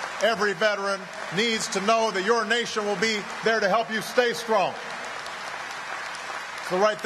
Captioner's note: applause